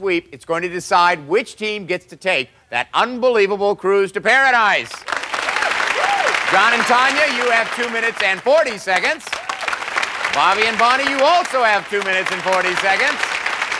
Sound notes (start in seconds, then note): 4.2 applause